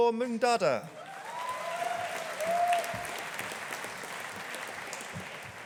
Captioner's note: audience applauding